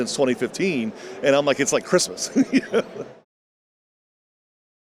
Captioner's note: laughs